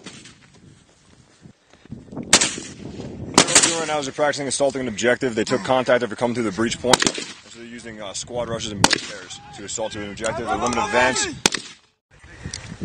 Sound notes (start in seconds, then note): 3.3 gunshots